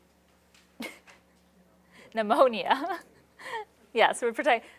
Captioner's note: laughs